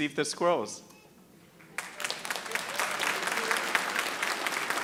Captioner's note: audience applauding